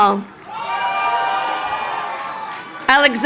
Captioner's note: crowd cheering